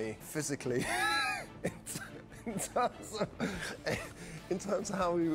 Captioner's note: laughing